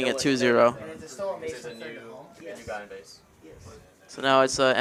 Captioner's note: indistinct chatter